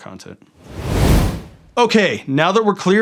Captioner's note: air whooshing